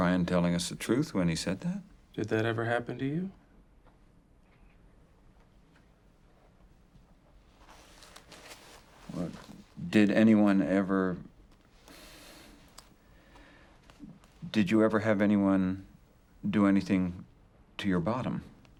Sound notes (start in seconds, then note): 11.8 sighs